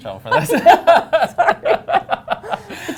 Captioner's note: laughter